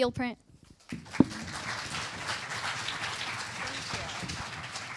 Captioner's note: applause